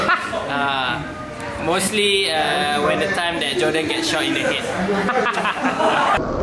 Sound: laughs

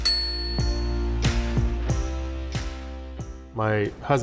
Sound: typewriter ding

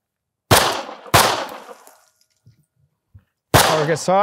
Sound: gunfire popping

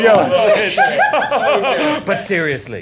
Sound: continues laughing

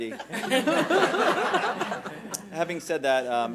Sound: laughing

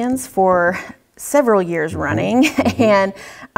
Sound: laugh

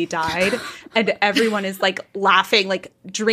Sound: both laughing

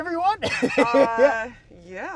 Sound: laughs

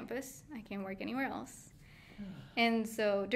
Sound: sighing

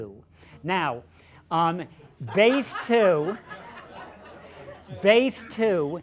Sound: laughter

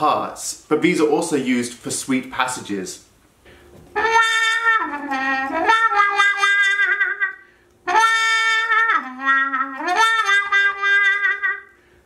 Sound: trumpet effect

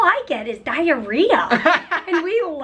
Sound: laughter

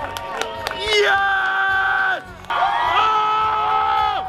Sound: crowd screaming; yells; crowd screams; crowd yells

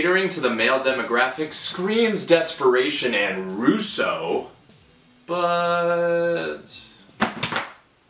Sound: dick hits underneath table

